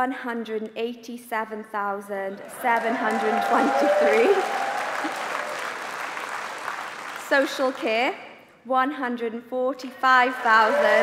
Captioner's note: applause